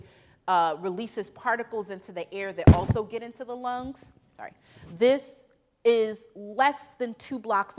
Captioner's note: thumps mic